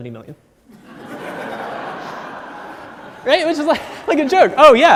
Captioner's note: audience laughs